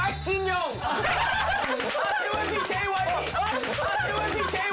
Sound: they burst into laughter

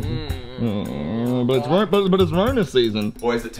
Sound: groaning

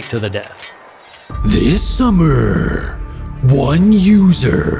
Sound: dramatically

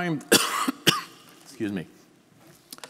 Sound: coughing

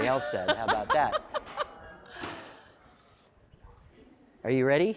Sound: laughing

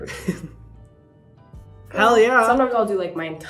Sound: Hyram laughing

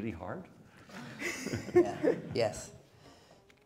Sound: laughing

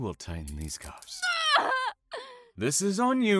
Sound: screams

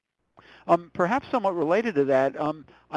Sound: voiceover

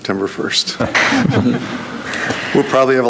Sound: board chuckling

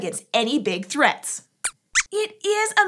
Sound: squeaks squeaks

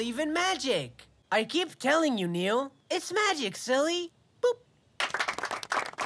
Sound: boop

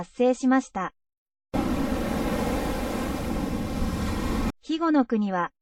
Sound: sound of tsunami

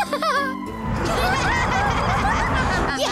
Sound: laughing, snorting; laughing

